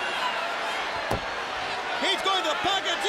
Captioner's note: crowd chatter